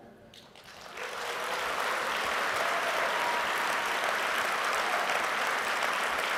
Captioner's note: applause